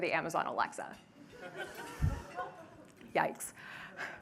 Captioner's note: laughter